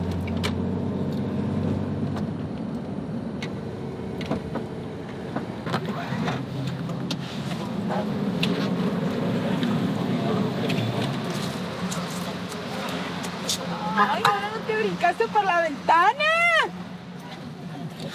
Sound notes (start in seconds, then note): 6.5 door opening; 14.3 speaking in Spanish